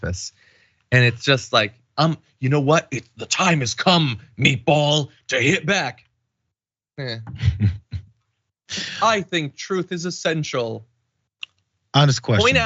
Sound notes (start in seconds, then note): 7.1 laugh